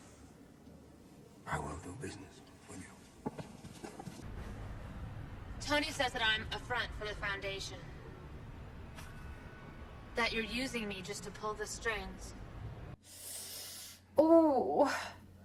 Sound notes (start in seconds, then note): 5.5 flat voice